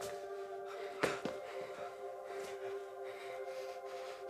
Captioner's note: both panting